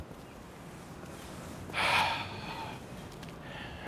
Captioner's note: sighs